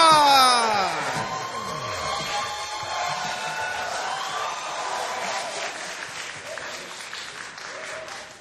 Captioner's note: cheering, applause